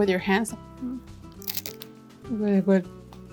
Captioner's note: flauta crunching